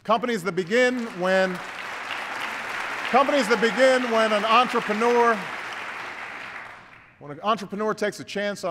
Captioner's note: applause